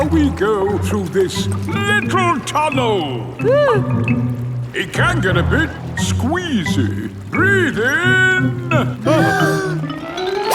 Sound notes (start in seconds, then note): 3.8 whimpers; 9.0 breathing in